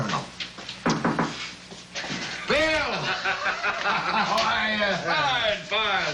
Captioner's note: knock on door; laughing